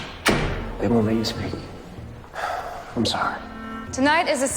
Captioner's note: voiceover